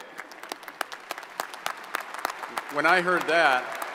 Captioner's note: audience applauds